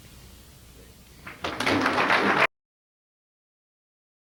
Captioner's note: applause; end of audio